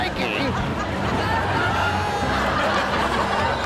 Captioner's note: audience laughs; suspenseful music